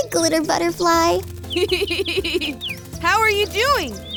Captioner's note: laughs